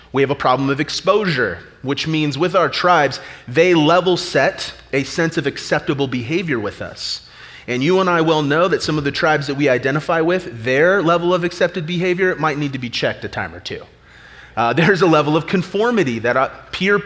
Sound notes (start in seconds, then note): none